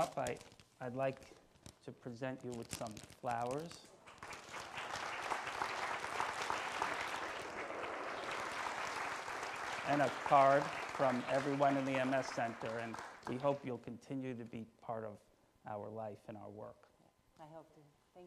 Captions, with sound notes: I'd like to present you with some flowers. (applause) And a card from everyone in the MS Center and we hope you'll continue to be part of our life and our work. - I hope too.